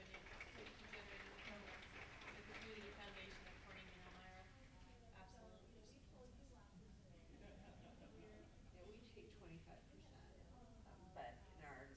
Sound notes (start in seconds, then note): 1.6 applauding drowns out panelists speaking